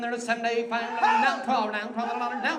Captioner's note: man shouts